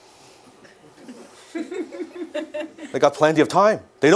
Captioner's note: audience laugh